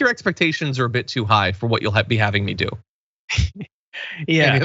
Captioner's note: laugh